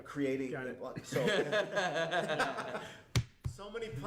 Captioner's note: laughs